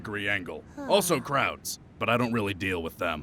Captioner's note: sigh